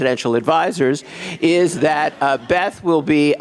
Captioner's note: audience laughs